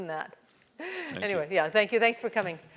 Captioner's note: laugh